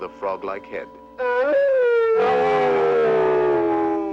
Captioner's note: howls